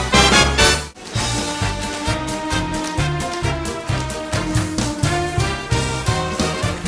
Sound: shoes tapping

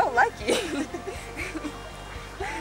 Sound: laughs

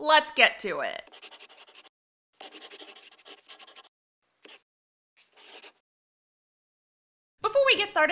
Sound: the sound of a pen scratching. LOGO

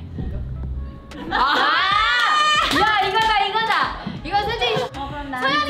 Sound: speaks in Korean; members exclaim; speaks in Korean

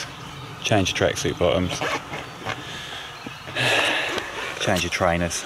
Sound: sighs heavily

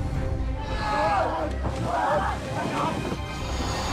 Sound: all screaming

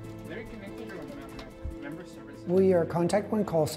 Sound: call center chatter

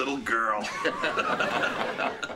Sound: both Laughing

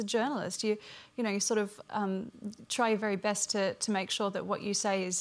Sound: none

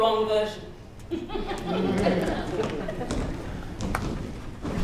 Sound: laughter

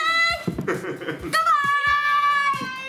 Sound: laughing

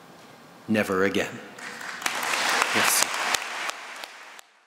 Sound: applause

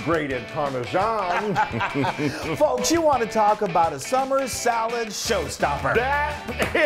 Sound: laugh

